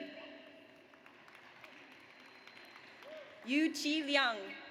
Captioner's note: audience applauds